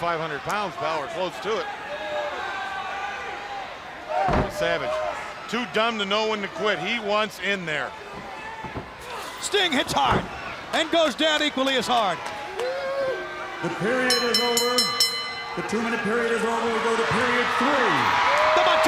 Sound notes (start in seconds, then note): 15.2 bell ringing